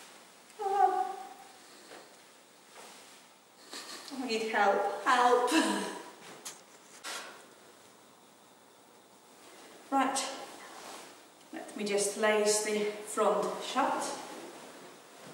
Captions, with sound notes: (gasps) I need help. Help. (laughs) - Right, let me just lace the front shirt.